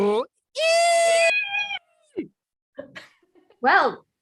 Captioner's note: fans screaming